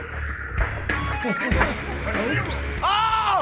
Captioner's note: laughs